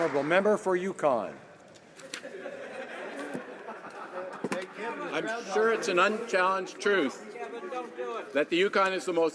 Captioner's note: some Applause